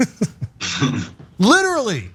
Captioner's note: laugh